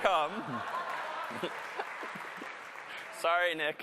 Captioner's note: applause